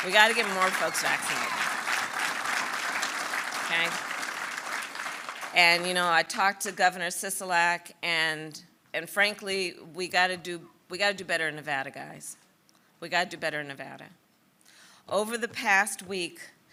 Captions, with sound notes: We got to get more folks vaccinated. (Applause.) And, you know, I talked to Governor Sisolak back and frankly, we got to do we got to do better in Nevada, guys, we got to do better in Nevada. Over the past week,